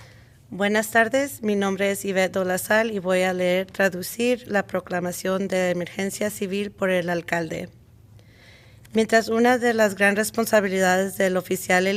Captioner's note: reading the Mayor's declaration, translated to Spanish